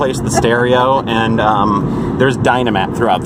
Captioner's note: laughs